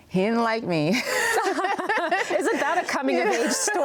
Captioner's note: laughs